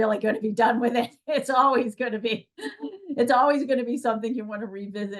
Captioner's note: laughs